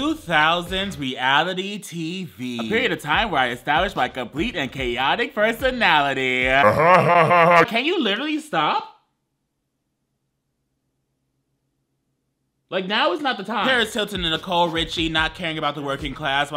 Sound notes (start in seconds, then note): 6.4 laughs